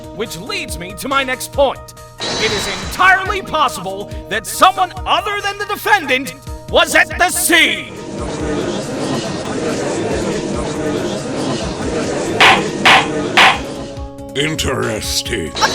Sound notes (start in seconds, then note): 8.3 gallery chattering; 12.3 gavel slams!